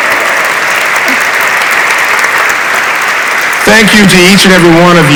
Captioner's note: audience applauds